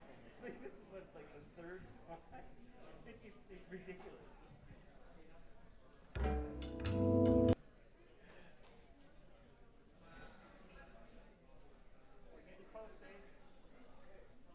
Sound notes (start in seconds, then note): 0.2 crowd chatter